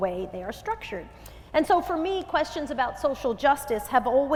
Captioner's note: none